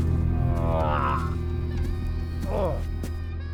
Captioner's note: grunting